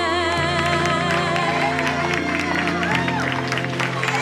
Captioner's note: audience cheers